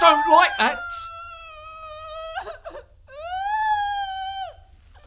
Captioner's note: muffled screaming